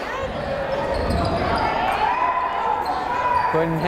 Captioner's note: yelling